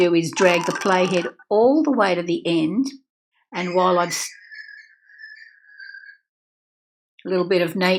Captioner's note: birds singing